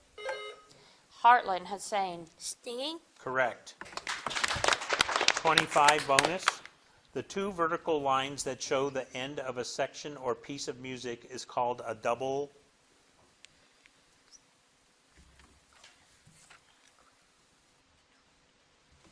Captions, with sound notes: (bell dings) - Heartland, Hussein. - Stinging? - Correct. (audience applauding) 25, bonus, the two vertical lines that show the end of a section or piece of music is called a double?